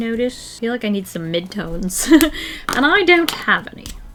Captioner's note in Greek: Γέλια